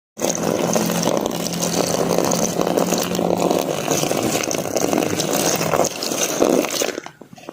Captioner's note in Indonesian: Suara air mengalir